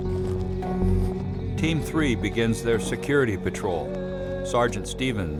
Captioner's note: voiceover